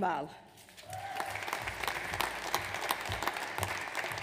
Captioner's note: audience applauds